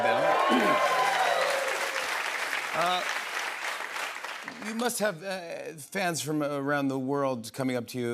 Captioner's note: cheers and applause